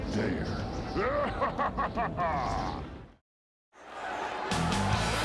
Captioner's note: crowd cheering